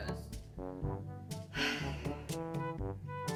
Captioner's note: sighs